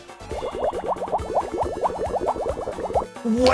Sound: angry fish noises

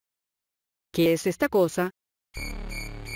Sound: spanish reading

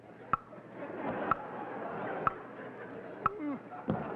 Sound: audience laughing; host groans and stomps foot

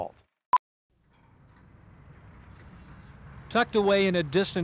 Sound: film beeping

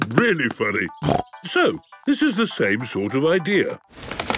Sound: snorting

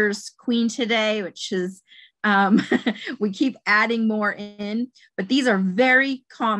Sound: chuckles

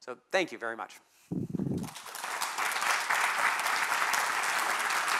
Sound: applause

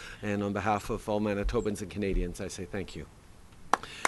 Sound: applause

